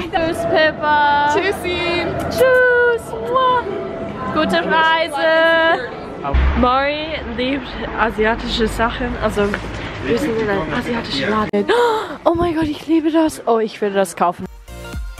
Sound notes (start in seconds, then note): 11.7 gasp